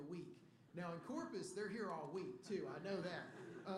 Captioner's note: laughter